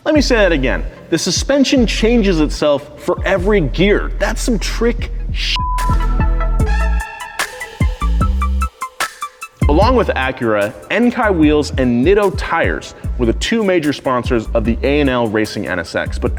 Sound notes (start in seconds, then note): 5.5 beep; 7.0 electronic bass music